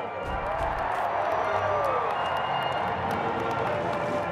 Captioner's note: crowd cheering